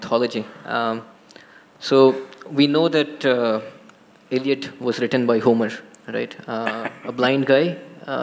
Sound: Sadhguru laughs

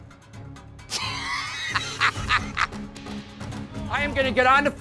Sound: laughs

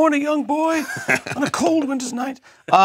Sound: laugh

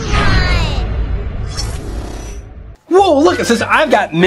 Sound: metallic swooshing

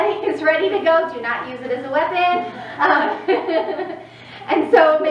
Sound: laughs

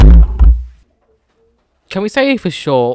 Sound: thud

